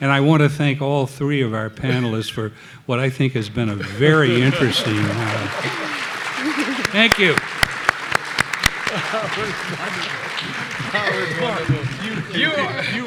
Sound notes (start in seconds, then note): 5.5 audience clapping; 8.6 clapping; 10.9 laughing